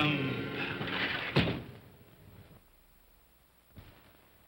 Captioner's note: window slides shut